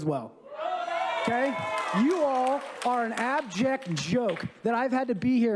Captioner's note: applause